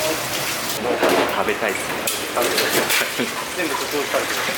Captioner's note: laughs